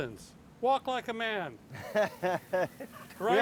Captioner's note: chuckling